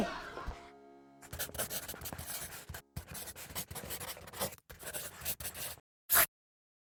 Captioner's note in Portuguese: atrito de giz na lousa